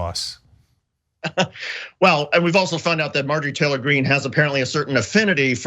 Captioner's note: laugh